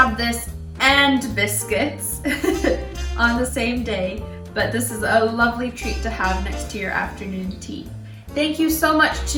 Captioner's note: laughs